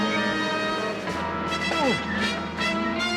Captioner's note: groans; tense music